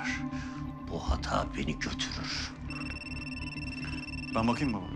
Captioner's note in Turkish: Telefon zili sesi